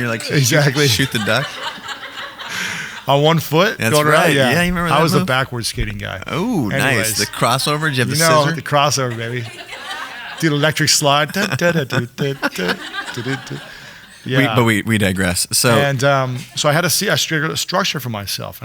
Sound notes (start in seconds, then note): 9.7 audience laughing; 11.7 imitates music; 12.8 audience laughing